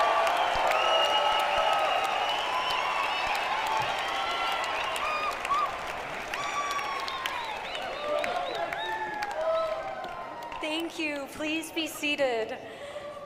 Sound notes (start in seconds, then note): 2.4 cheering and applause